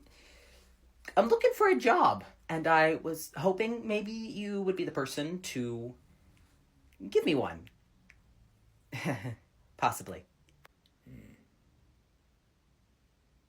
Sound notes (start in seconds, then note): 8.9 nervous laugh